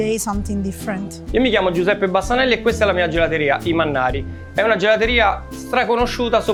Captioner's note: speaking in foreign language